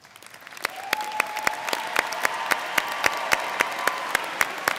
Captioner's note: audience cheers